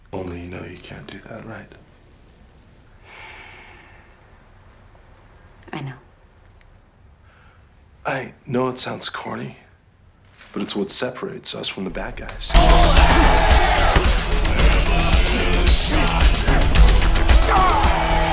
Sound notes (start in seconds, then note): 3.2 sighs; 12.0 grunting; 12.4 heavy dance music